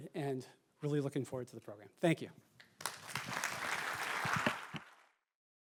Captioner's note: applause